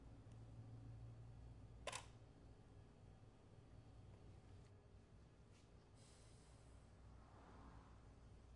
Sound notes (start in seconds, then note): 1.8 shutter clicks